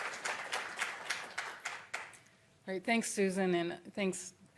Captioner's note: applause